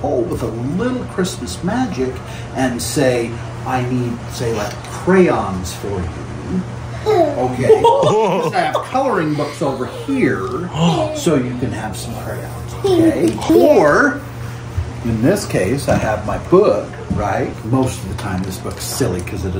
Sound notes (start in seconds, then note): 7.6 gasps and laughing